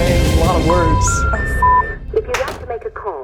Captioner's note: engaged tone beeps